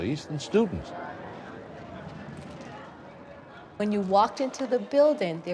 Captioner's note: people talking in background